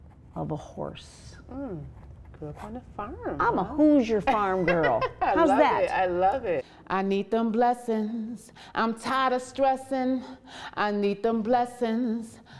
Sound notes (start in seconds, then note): 4.3 laughs